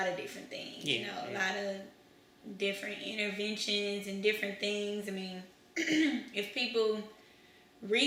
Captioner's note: clears throat